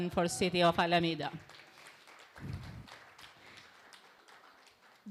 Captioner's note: applause